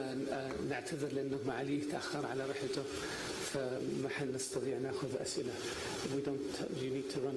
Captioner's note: in Arabic